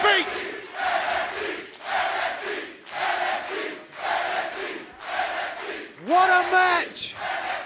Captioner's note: crowd cheering